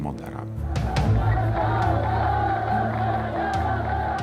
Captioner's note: Arabic spoken audio